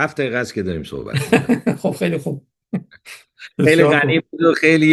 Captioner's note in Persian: خنده